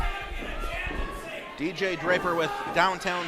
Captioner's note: audience heckling